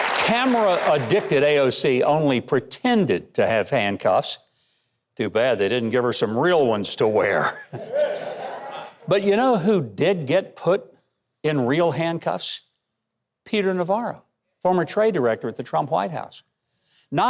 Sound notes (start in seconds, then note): 7.7 audience laughs